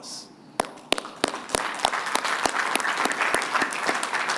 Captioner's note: applause